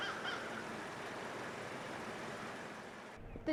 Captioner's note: nature sounds